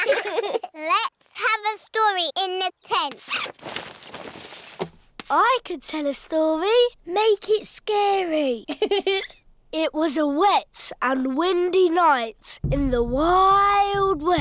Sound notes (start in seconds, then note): 8.6 giggling